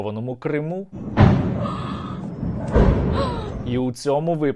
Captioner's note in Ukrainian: звуки вибухів